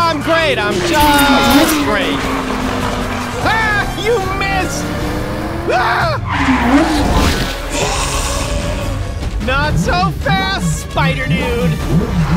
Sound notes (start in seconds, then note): 5.8 yelling; 8.1 hissing